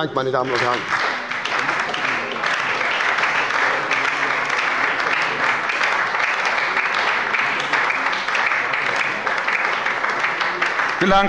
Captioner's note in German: Beifall bei der SPD und der LINKEN